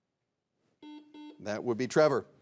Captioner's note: buzzer beeps